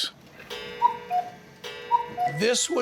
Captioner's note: cuckoo clock chimes